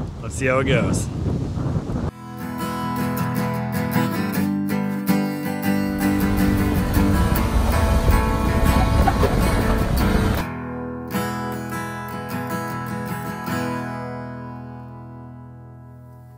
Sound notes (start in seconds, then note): 2.1 upbeat acoustic music; 5.8 engine revving